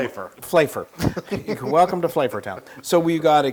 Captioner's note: laugh